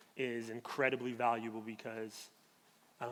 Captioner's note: none